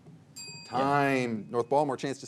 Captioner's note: bell rings